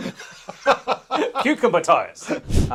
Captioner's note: both laughing